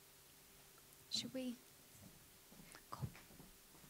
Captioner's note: whispers